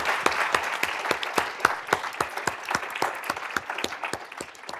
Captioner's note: applause